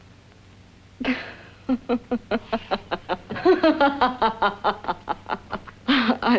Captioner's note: laughs